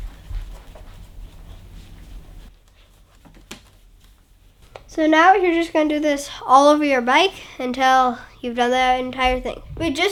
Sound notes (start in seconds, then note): none